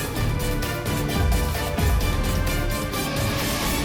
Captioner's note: heart beating